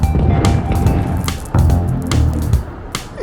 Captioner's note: crowd murmuring; rumbling footsteps